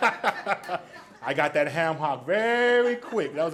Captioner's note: laughs; audience laughs